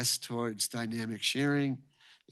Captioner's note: none